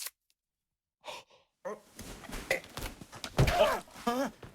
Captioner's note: Curly gasps and struggles; thudding; Curly cries out in pain